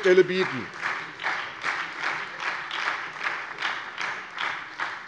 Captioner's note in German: Beifall bei der SPD